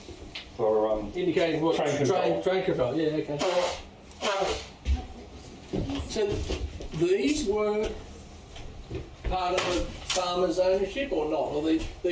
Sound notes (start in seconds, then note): 4.2 sneezing sound